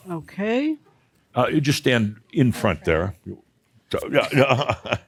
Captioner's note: chuckles